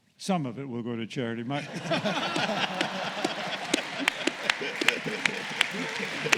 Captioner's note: laughter